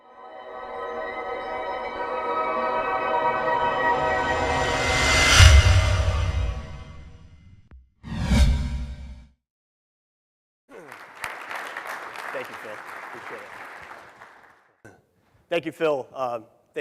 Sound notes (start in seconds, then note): 0.1 dramatic music; 10.7 applause